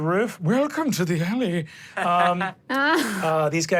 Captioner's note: chuckles